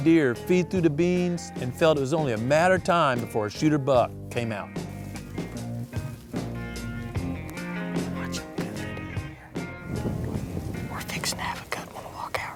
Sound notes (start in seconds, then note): 3.7 whispering